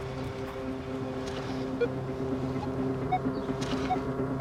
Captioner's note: detector beeping